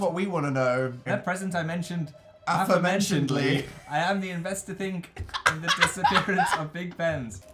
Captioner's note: D: laughing